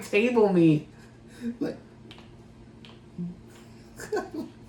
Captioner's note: cracks his knuckles